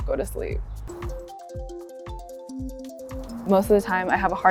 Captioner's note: alarm rings